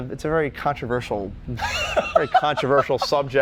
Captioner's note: laughing